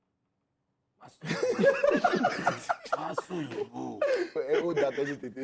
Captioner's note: laughs